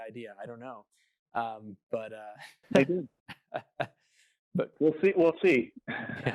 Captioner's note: laughs